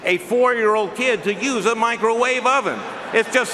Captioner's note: laughing